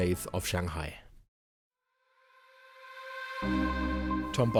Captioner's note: voiceover